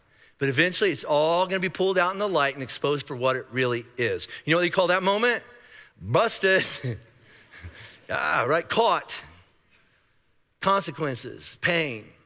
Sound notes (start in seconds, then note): 6.7 laughing